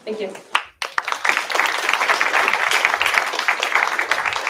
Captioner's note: applause